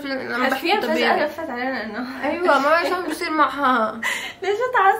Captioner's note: chuckles